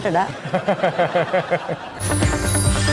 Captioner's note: laughing